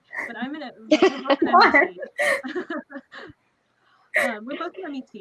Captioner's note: laughing